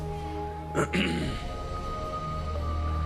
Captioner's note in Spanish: Carraspea